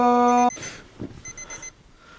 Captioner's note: alarm beeping